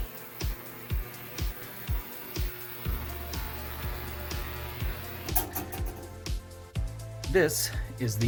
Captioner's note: bzzzzzzzzzzzzzzzzzzzzz